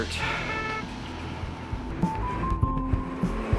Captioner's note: car honks; upbeat music